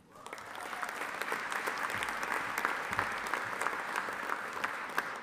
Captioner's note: audience applauding